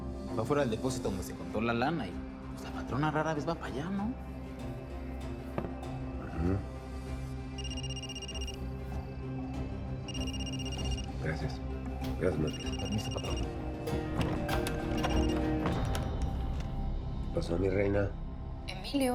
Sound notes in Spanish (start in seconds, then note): 7.6 suena un celular